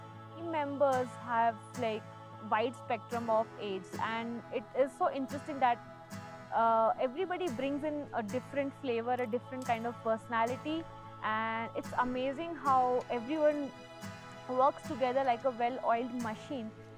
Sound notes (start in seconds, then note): none